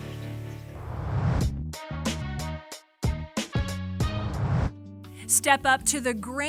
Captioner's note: whoosh